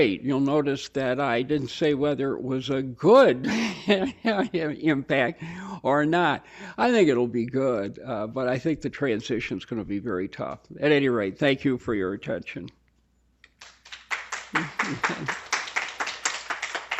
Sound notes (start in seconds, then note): 13.5 applause